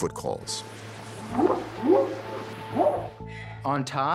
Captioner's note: whooping sound